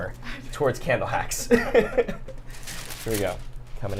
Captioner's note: laughs